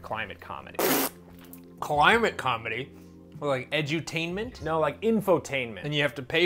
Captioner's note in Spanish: pffft